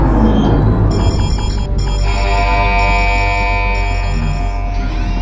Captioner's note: alarms blaring